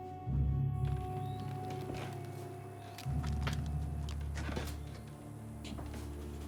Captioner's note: insects chirping; birds trilling